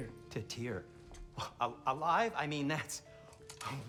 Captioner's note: gasp